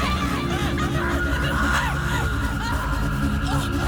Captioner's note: screaming